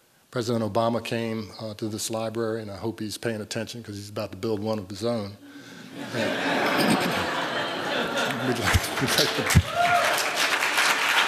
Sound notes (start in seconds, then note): 5.9 laughter; 8.2 applause